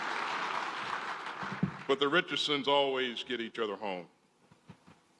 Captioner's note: applause